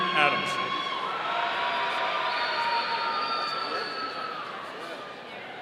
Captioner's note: audience cheering